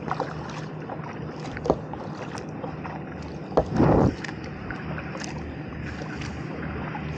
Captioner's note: boat engine in background